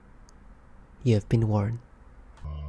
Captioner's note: gathering and crafting sounds throughout